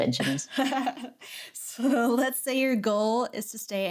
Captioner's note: laughing